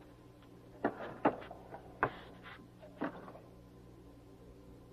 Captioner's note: drawer clinking